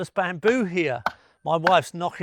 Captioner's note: woman knocking on bamboo